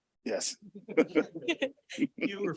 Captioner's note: laughter